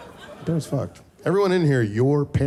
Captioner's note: audience laughing